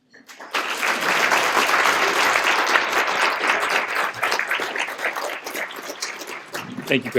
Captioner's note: applause